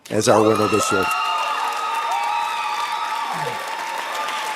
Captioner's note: audience cheering